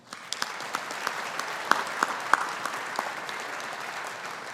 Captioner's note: audience applauding